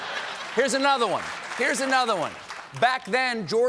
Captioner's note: laughter